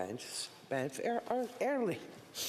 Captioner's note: speaking French